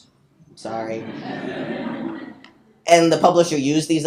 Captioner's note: people laughing